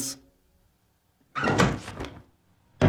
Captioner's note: window squeaks